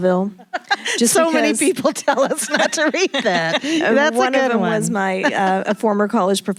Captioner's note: laughing